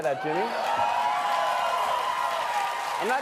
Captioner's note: cheering and applause